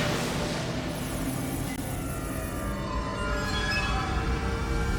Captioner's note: mysterious music; graphics whooshing